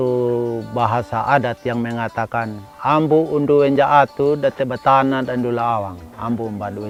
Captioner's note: in Sumbanese language